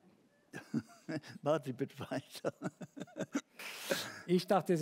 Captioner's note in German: lacht